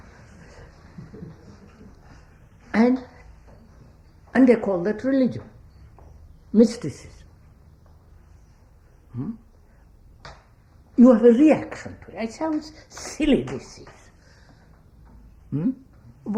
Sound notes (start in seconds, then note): 0.8 laughter